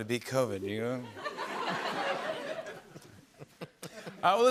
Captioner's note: laughter